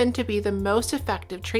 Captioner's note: none